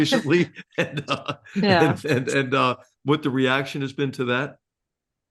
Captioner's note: laugh